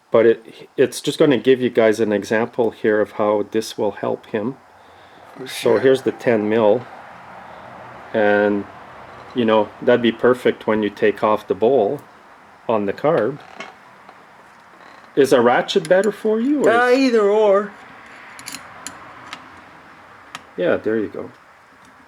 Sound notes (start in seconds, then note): 17.7 metal clinking